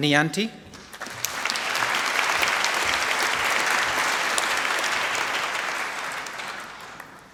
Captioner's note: applause